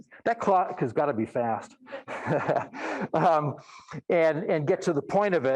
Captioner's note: laughing